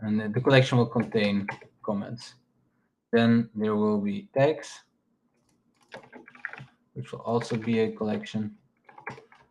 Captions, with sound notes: And then the collection will contain comments. Then there will be text, (keyboard clacking) which is also be a collection.